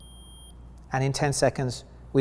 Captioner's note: meter beeps